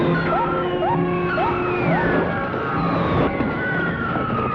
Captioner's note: siren wailing